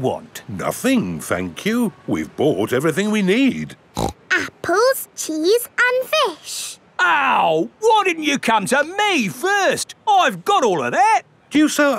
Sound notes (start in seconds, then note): 4.0 snorts